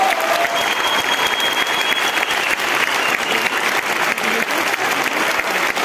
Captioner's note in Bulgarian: аплодисменти